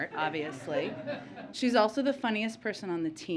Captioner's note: laughter